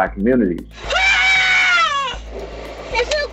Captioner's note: mother screams in distress